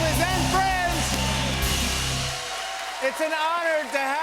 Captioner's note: cheers and applause